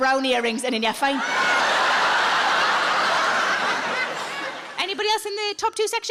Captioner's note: audience laughing